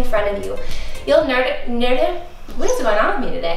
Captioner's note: stammers